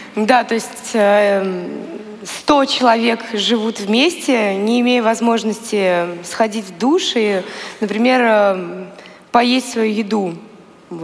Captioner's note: foreign Language